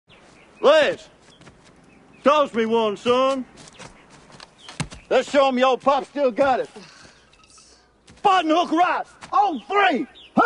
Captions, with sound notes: - Lance! Toss me one, son. Let's show 'em your old pop's still got it. (Julie scoffs) Button hook right. On three!